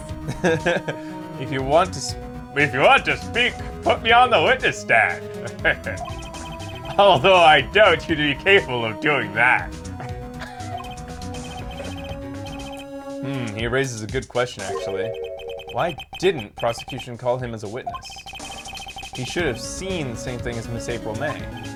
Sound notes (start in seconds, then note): 0.0 laughs; 4.8 chuckles; 10.1 laughs